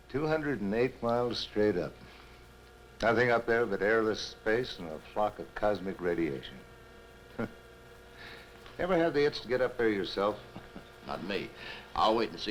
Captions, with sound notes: - 208 miles straight up. Nothing up there but airless space and a flock of cosmic radiation. (scoffs) You ever have the itch to get up there yourself? - Not me, I'll wait and see